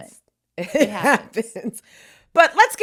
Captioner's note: laughs